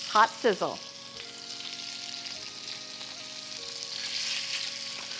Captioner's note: oil crackling